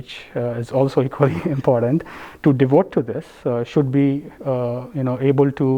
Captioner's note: laugh